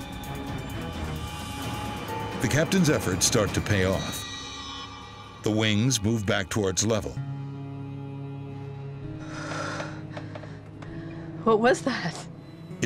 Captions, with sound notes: (dramatic music) The captain's efforts start to pay off. The wings move back towards level. (passenger exhales) - What was that?